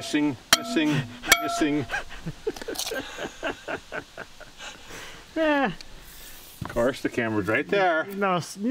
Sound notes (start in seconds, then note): 1.6 laughing